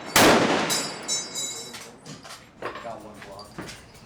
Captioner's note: gunfire